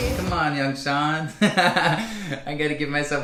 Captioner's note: laughs